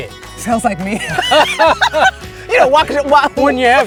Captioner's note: both laughing